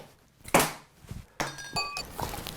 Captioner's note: arrow bangs against the board; arrow bangs against mug